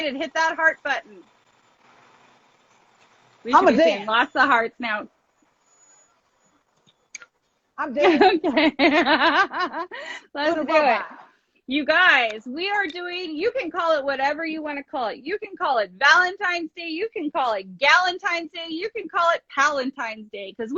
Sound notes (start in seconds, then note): 8.0 laughs